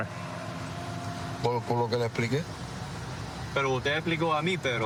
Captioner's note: speaking spanish